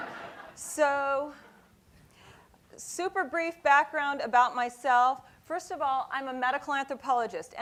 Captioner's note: laughing